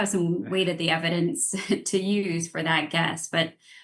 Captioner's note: laughs